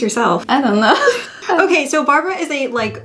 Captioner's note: laughs